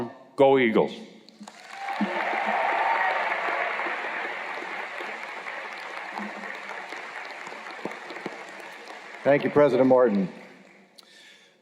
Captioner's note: cheers and Applause